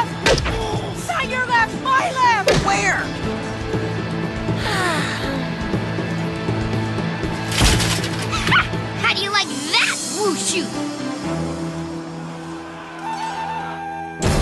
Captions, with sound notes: Not your left, my left! Where? ( sighs contentedly ) Ha! How do you like that wushu?